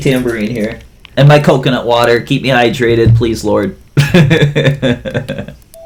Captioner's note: laughs